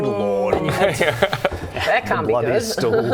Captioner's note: immaturely chuckles